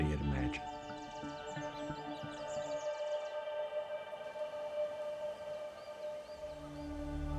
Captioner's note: birds chirping